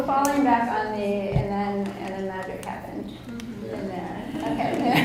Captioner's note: audience laughs